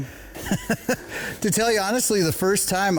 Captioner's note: laughs